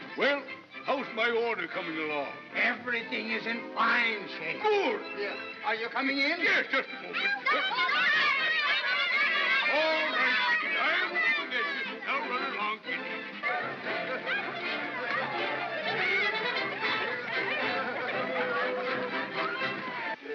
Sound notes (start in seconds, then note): 7.2 children yelling; 13.5 jovial music